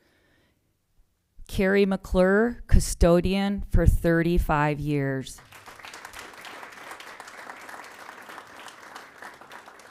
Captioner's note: applause